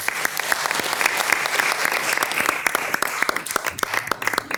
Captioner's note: people applauding